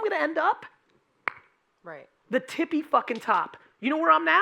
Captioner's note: snapping